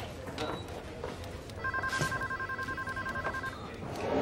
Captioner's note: Lobby chatter; Phone ringing